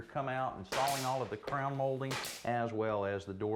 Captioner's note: drill snaps